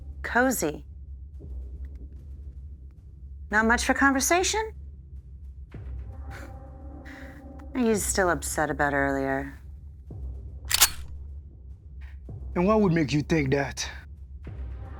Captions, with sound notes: Cozy. Not much for conversation? Are you still upset about earlier? (gun cocking) - And what would make you think that?